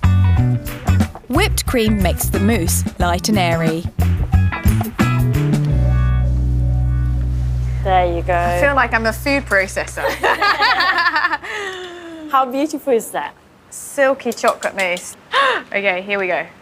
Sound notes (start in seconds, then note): 3.9 relaxed upbeat music; 10.0 laughs; 15.3 gasps